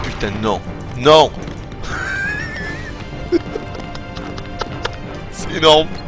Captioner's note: laughs